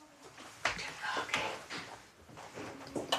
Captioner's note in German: flüstert